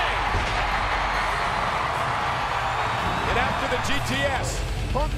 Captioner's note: crowd cheers